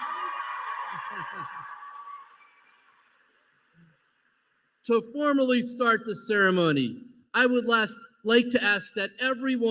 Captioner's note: applause